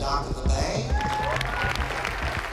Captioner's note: applause and cheering